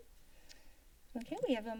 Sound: tongue clicking

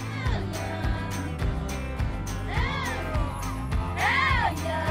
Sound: group chants; folksy music

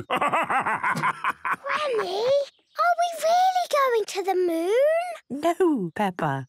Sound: whispers

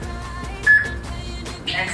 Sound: peep

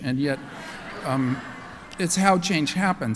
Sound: laughter

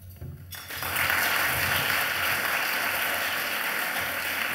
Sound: audience applauds

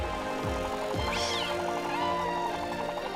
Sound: meowing

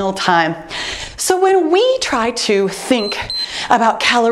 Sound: timer beeps

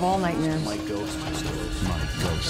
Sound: collective voices

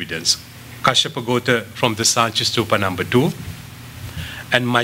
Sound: non-english

